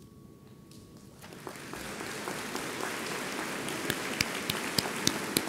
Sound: audience applauds

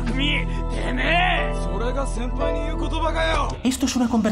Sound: in Japanese

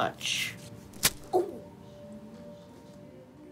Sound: groans

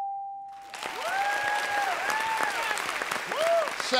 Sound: cheers and applause

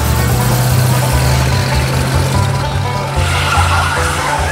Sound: car engine whirs; playful country music; car tires screeching

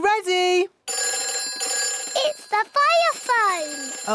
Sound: phone rings

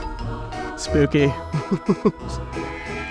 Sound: laughs

